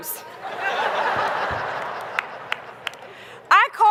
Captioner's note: laughter